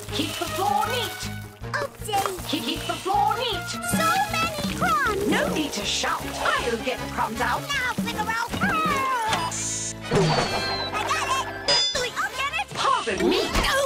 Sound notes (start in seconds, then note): 9.1 meows; 9.4 beeps; 10.2 dings